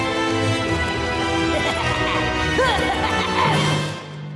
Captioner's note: laughs maniacally